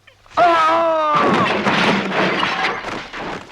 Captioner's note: Rothrar shouts